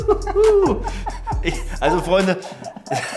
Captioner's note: both laughing